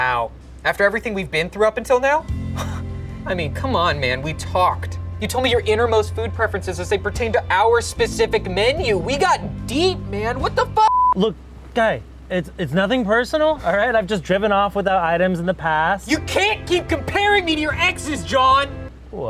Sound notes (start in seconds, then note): 10.8 beep